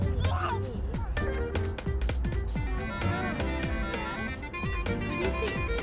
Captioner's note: child noises